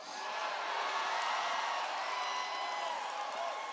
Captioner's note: cheers